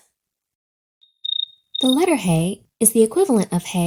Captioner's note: crickets chirp